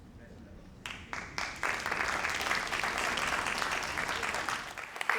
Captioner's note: crowd applauding